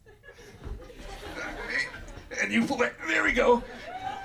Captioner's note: audience laughter